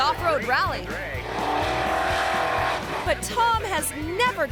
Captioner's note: truck revving; commentator chatters